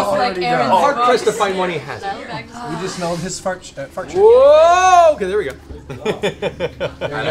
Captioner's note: laughs